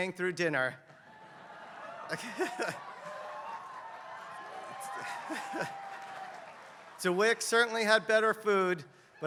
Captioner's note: laugh